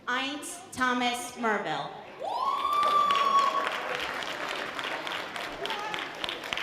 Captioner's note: light audience applause